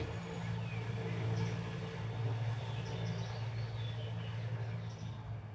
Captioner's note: scooter passing in distance